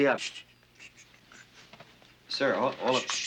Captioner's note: shushes